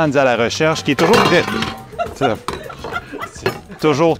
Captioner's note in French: fracas et rires